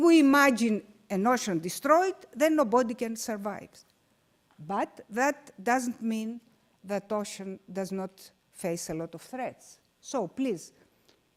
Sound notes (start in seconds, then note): none